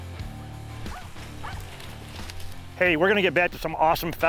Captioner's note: dogs barking